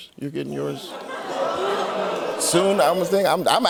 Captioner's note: audience oohs